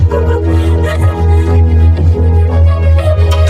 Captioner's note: gasps, whimpers; whimpering frantically